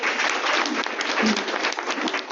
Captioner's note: audience clapping